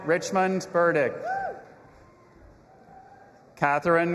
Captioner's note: audience applauding and cheering